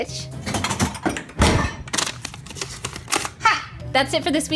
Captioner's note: clanking and paper sounds